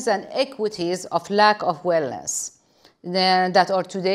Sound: none

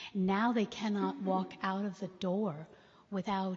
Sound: none

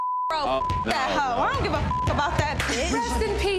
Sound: beep

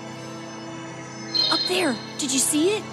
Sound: ghost tinkling

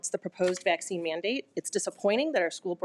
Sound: none

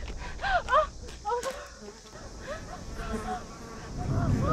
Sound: Morgan gasps; flies buzzing

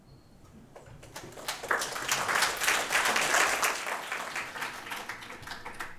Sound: applause

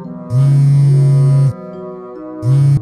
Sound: phone vibrating

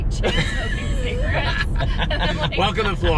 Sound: laughing

